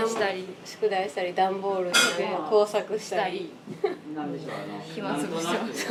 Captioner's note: laughs